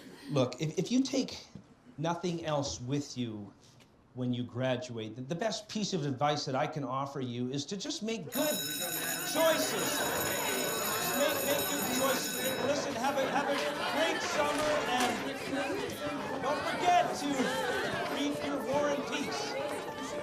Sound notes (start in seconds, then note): 0.0 students laughing; 8.3 alarm bell ringing; 11.9 students chattering